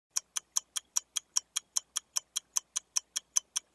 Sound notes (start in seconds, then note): 0.1 clock ticking